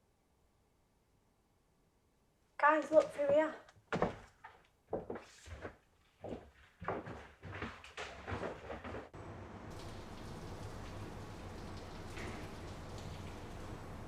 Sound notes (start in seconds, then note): 9.7 water trickling